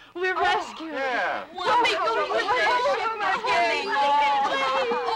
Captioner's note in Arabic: يتحدث بحماس